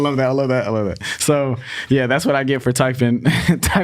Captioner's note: laughs